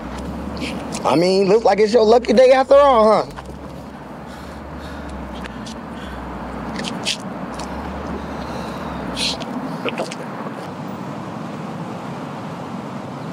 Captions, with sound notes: - I mean, it look like it's your lucky day after all, huh? (Malik panting) (traffic humming)